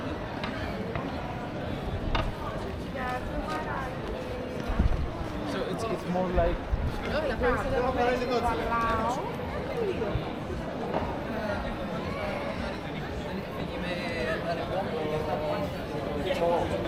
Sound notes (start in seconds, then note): 7.2 people chattering